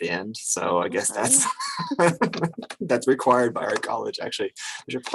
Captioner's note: both laugh